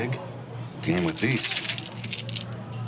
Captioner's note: pill bottle rattles